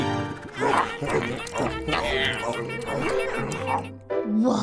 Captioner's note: creatures munchin'